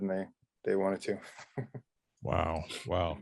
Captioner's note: man laughs